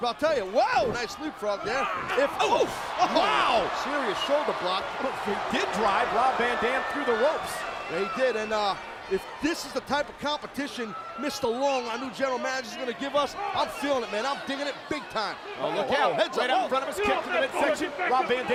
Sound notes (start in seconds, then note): 3.1 laughs